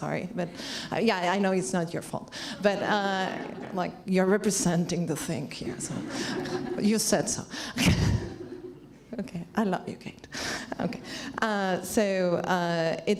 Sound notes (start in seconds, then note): 3.2 laughs; 6.0 laughs